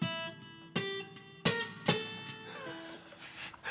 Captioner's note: slow guitar music; laughing